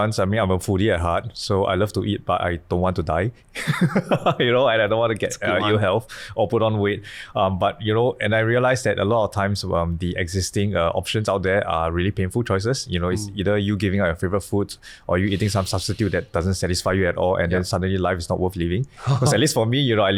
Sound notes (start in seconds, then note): 3.7 laughing